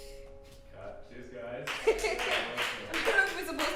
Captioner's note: clapping; laughing